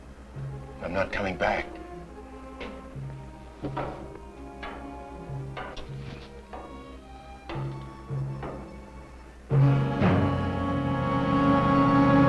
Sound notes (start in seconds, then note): 2.3 footsteps approaching; 9.4 dramatic music